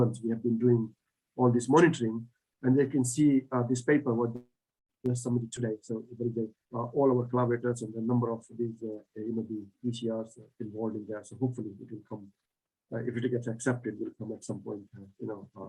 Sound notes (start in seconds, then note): 5.1 audio distorts